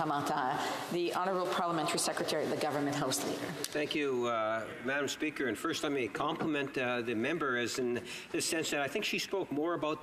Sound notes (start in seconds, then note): 5.3 speaking French; 7.1 continuing in English